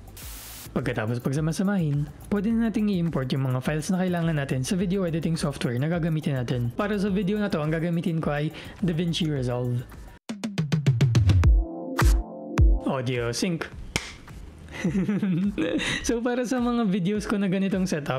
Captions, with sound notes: After compiling them in one place, we can proceed to import the files we need onto the video editing software that we'll use. For this video, I'll be using DaVinci Resolve. Audio/ Video Sync Audio sync [clap] [giggles] For my videos with this kind of set-up,